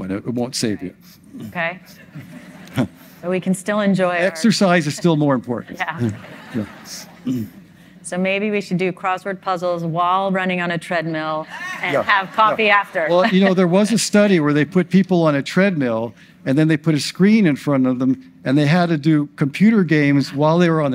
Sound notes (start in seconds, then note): 2.1 audience laughs; 5.8 audience laughs; 11.6 audience laughs